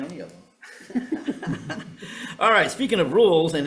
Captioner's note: chuckling; attendees chuckling